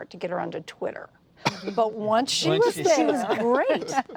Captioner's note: laughter